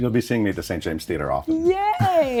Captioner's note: chuckles